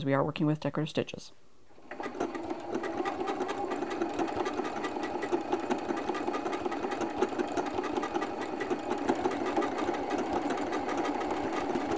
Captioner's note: machine stitching